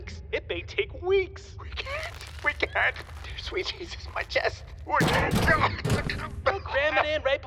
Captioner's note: collapses and continues babbling